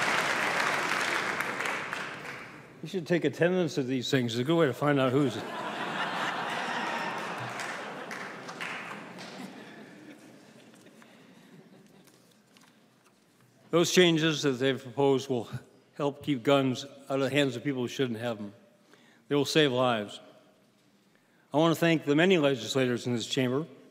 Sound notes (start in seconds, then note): 13.6 laughing